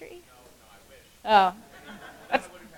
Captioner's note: laugh